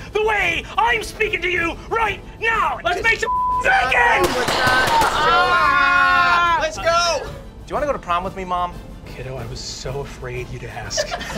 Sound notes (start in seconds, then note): 3.2 beep; 4.2 gun firing; 5.6 group shouting; 10.9 laughing